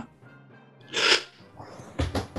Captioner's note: sharp intake of breath